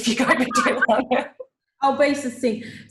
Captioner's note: laughs